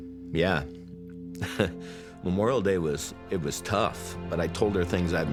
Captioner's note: chuckles